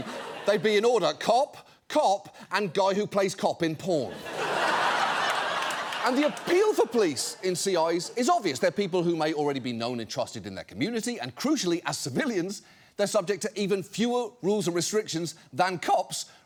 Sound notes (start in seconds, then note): 4.1 audience laughing